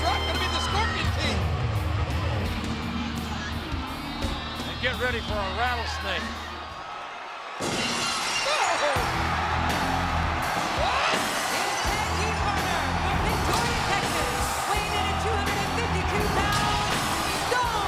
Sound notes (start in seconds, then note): 7.8 glass shatters; 8.8 audience cheering; 9.0 dramatic rock music